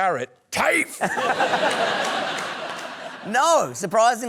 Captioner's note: laughter